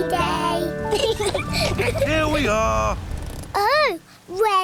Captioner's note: both laugh